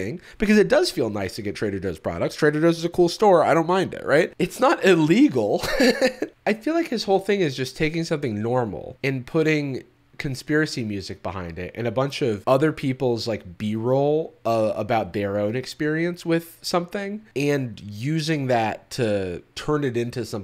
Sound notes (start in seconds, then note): 5.6 laughs